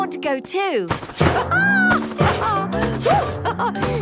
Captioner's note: laughs